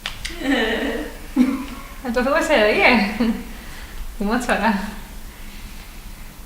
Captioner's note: chuckles